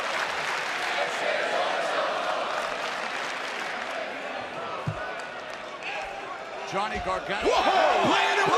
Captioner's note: crowd cheering